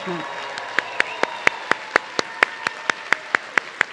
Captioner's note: audience cheering